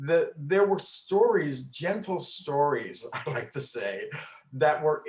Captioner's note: chuckles